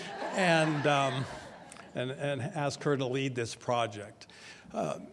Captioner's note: audience laughs